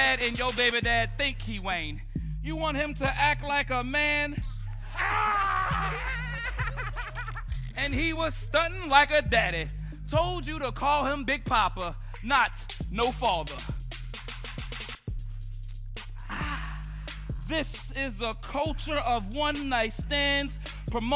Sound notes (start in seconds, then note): 6.2 group laughing; 16.2 group exhales